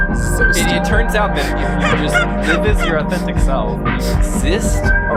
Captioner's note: laughing